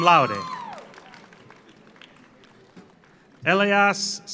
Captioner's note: audience cheers; audience applauds